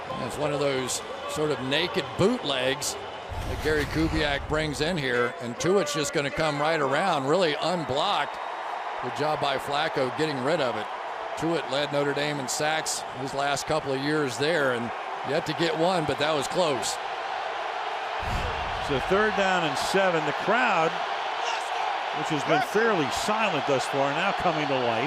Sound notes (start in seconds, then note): 17.5 crowd cheering